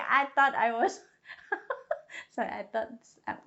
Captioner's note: laughs